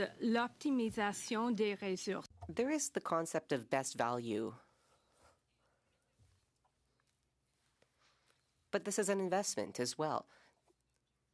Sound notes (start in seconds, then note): 8.4 speaking French